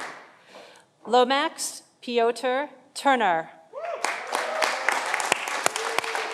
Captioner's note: audience applauding